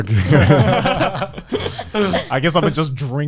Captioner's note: group laughing